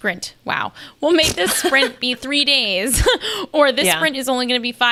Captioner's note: laughs